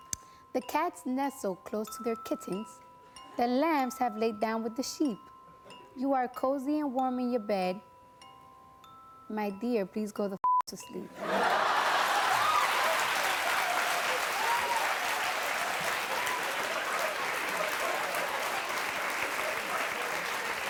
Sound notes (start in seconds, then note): 11.2 laughter; 11.9 cheers and applause